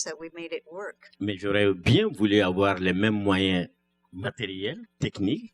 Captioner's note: speaking french